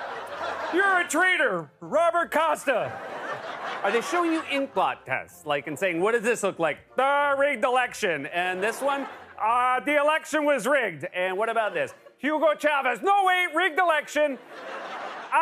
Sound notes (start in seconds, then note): 0.0 squeaky voice; 2.7 normal voice; 2.8 laughter; 8.4 laughter; 8.6 normal voice; 11.1 normal voice; 14.2 laughter